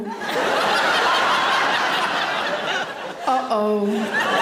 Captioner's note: audience laughing